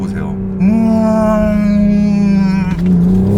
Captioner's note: joyfully mimicking sound of the engine